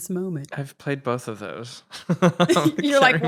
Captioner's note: laughs